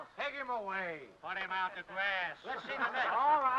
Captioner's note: men laugh